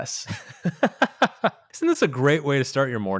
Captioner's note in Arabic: يضحك